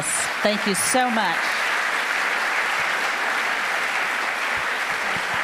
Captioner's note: audience applauding